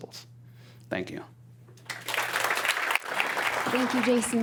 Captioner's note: applause